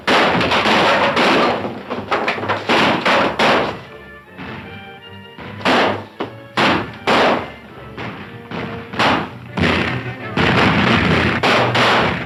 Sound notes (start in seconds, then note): 0.0 clatters; 8.5 firing guns